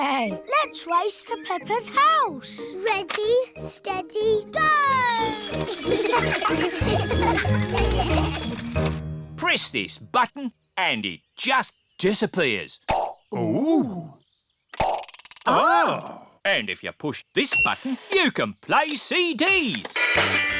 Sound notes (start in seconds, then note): 4.8 bells ring; 5.6 all giggle